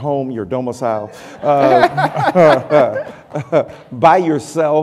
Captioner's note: laughter